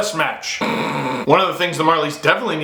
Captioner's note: grunting in sarcasm